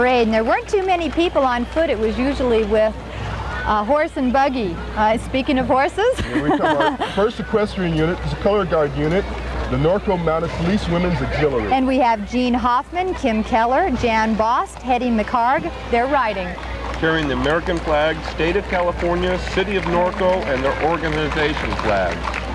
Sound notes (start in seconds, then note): 6.1 laughing